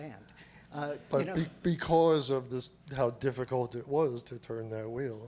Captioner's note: voiceover